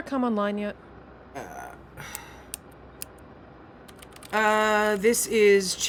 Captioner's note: clicking of switches and keys